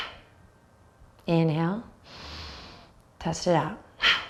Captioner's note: sharp exhale